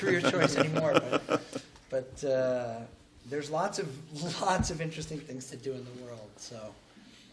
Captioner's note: laughter